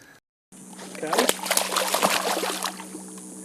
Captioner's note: splash